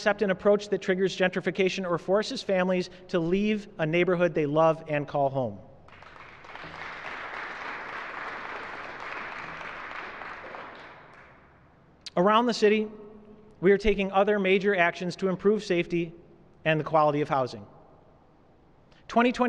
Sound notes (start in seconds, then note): 3.6 applause